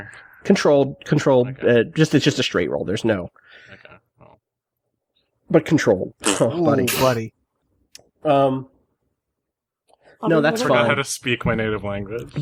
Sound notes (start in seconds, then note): 6.8 sylvia blows a raspberry